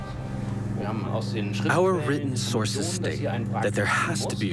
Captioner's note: in German